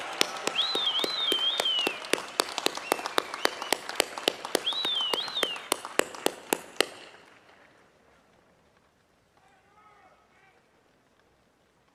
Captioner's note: applause